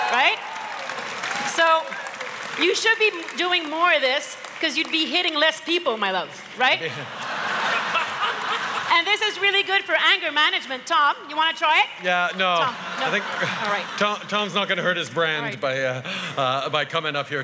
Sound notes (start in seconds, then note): 0.0 wild cheers & applause; 6.8 laughter; 6.8 laughs; 12.5 laughter